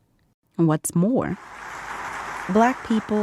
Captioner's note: audience applauding